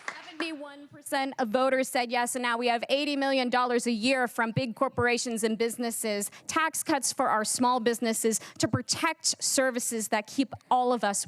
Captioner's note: cheers and applause